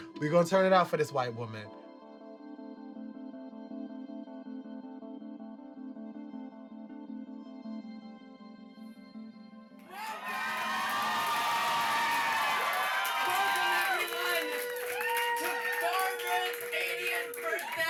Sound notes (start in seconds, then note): 2.2 gentle music; 9.8 audience cheering